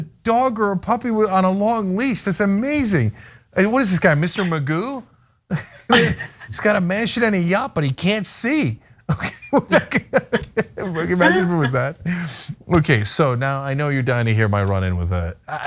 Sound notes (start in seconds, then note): 9.1 laugh